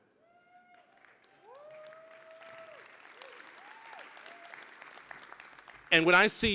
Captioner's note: applause